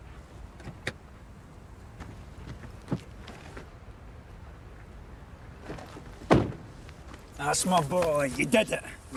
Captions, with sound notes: (door clicking) - That's my boy! You did it!